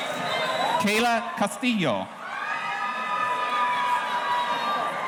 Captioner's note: audience cheering